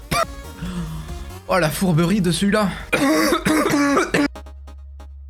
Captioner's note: coughs nastily; cough